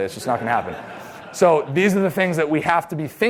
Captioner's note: laughter